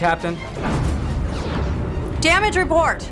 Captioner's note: explosion